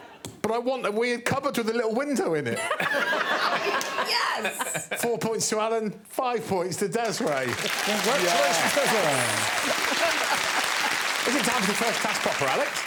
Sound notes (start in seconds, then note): 7.0 audience applauding